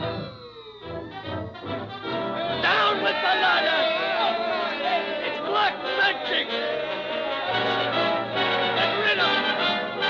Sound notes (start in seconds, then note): 5.3 citizens yelling; 6.6 dramatic music